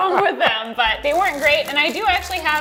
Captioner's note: laughs